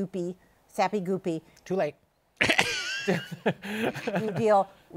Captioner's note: laughs